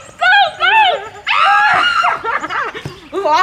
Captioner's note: screaming; laughing